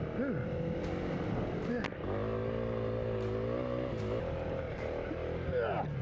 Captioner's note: engine revving